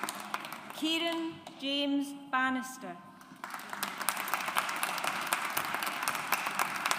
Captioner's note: audience applauds